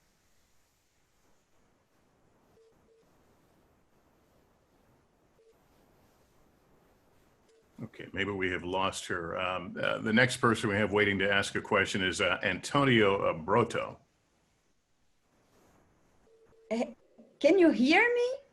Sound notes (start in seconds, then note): 0.7 pause